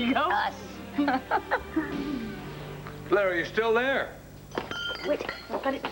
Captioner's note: glasses clink